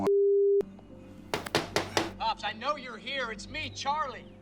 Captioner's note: knocking